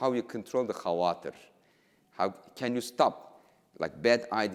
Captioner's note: speaking in foreign language